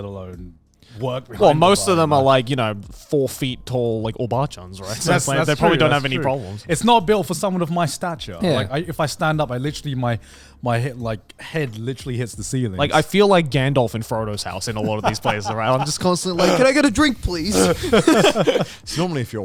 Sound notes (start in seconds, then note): 4.2 speaking in foreign language